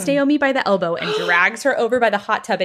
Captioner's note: gasps